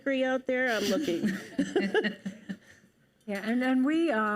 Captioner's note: panelists laugh